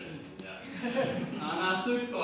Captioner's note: audience laughter